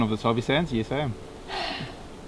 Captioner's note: happy sigh